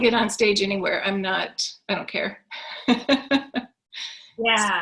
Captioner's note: laughs